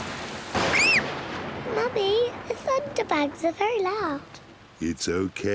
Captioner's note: thunder rumbles; screams